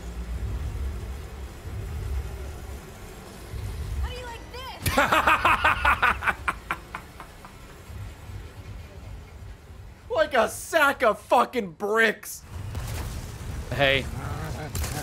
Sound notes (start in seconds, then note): 3.3 laughs